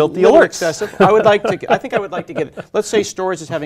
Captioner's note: laugh